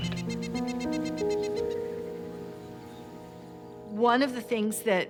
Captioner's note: birds chirping